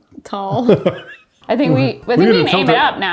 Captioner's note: laughs